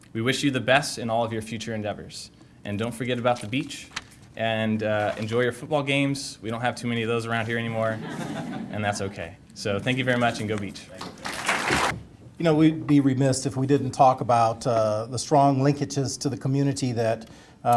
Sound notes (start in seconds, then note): 11.0 applause